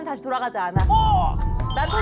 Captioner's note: dramatic sound effect